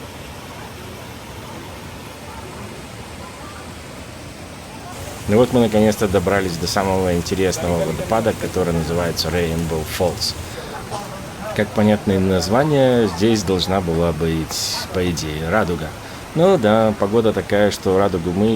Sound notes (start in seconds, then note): 2.8 sound of water